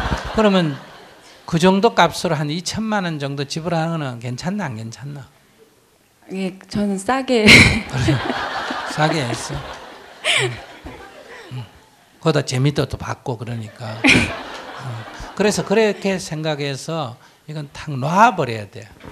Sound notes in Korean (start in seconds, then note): 0.0 청중 웃음; 7.4 질문자 웃음; 7.7 청중 웃음; 13.6 청중 웃음; 13.6 질문자 웃음